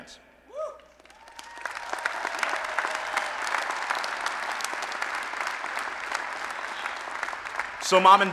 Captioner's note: applause and Cheering